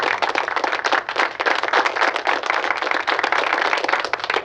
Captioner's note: applause playing